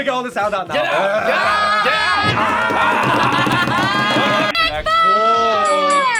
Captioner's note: screams; both yelling